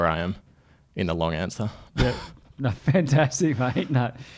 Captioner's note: laughs